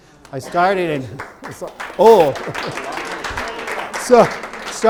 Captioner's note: participant applause